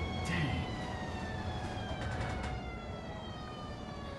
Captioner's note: sirens